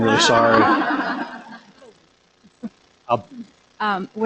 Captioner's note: laughter